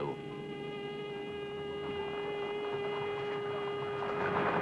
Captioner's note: sirens whirring